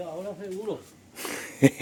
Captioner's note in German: gelächter